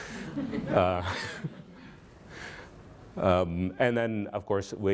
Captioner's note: laughter